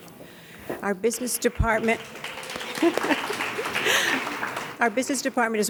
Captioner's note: laughs and claps